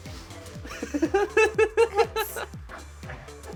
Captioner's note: laughs